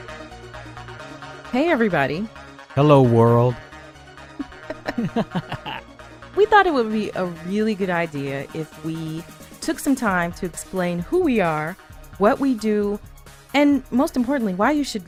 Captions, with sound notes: Hey everybody! Hello world! (laughing) We thought it would be a really good idea if we took some time to explain who we are, what we do, and most importantly why you should